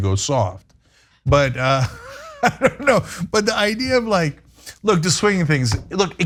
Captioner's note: laugh